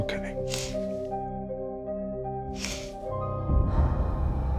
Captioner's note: sniffles